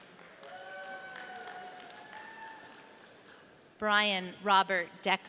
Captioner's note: audience cheering